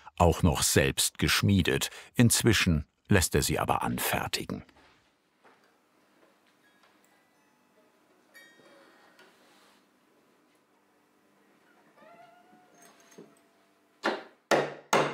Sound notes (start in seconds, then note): 11.7 low squeak; 14.0 hammering